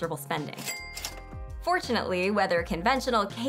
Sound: cash register dings

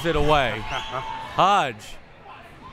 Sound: laughs

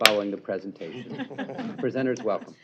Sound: laughter

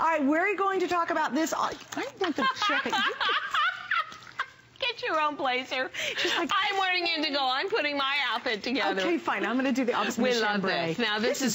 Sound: laughter

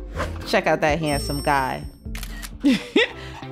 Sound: camera shutter clicks; chuckles

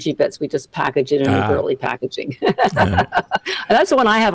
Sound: laughs

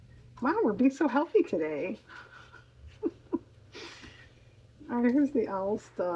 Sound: laughs

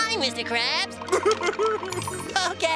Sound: sobbing

